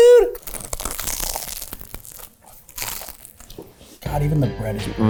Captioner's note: bread crunching